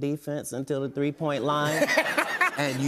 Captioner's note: laughter